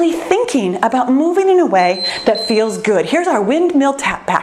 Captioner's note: timer beeps